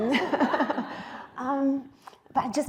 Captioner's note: laughter